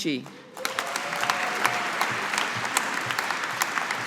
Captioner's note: audience applauding